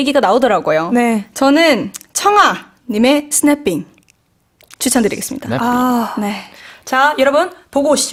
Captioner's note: snapping